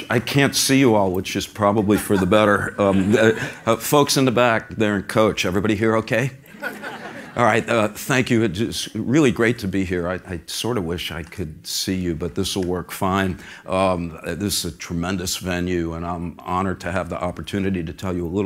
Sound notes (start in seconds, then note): 6.5 laugh